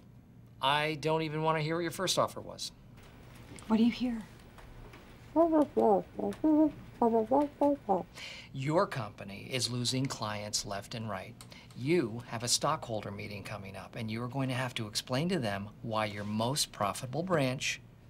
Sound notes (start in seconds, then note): 4.4 imitates muffles speaking